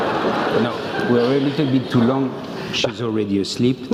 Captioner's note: laugh